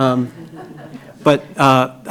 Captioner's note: laughing